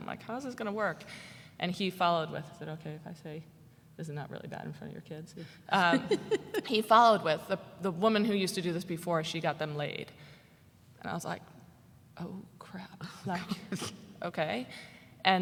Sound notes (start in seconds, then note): 5.8 laughs